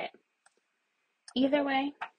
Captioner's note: mouse clicks